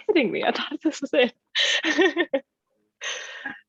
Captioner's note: laughter